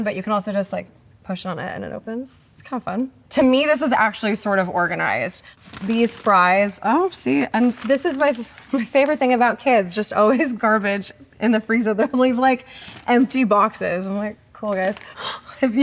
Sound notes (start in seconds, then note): none